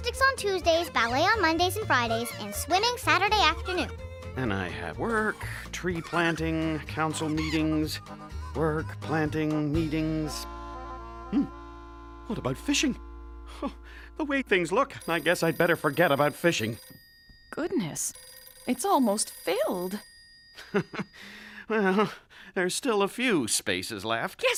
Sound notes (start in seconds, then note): 17.1 phone ringing; 20.6 chuckling